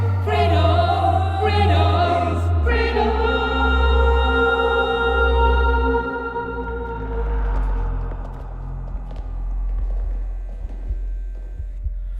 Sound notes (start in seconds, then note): 6.9 footsteps; 9.5 heartbeat; 11.9 lights click